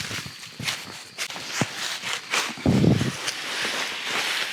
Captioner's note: leaves crunching